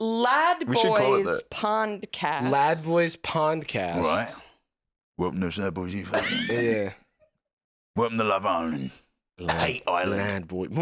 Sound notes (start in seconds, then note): 5.4 extra Britishly